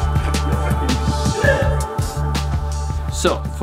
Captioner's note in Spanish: música fuerte y emocionante; exclamaciones